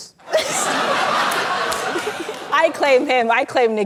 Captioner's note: laughter